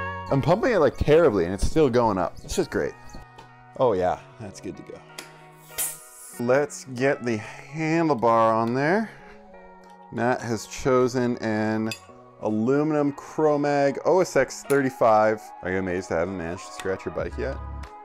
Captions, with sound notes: I'm pumping it like terribly and it's still going up. This is great. Oh yeah. That's good to go. (air blows) Let's get the handlebar on there. Matt has chosen an... aluminum Chromag OSX 35. Are you amazed that I haven't managed to scratch your bike yet?